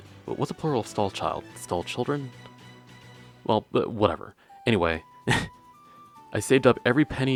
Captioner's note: laugh